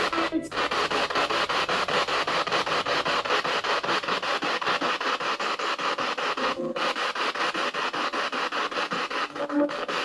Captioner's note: radio noise from the spirit box